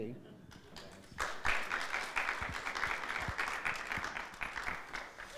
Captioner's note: audience clapping